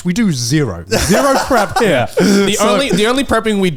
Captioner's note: laughing